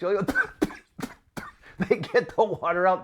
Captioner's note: spluttering and coughing